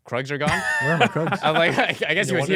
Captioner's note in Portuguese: risos